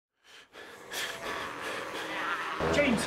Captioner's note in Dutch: zware ademhaling